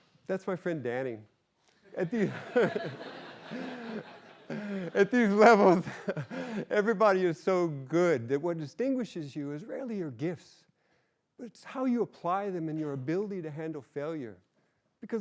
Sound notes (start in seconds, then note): 2.0 chuckles; 2.0 laughter